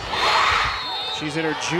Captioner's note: crowd and players cheering; whistle blows